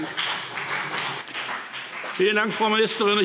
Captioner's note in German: Beifall BÜNDNIS 90/DIE GRÜNEN und vereinzelt CDU